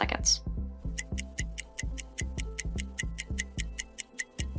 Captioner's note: clock ticking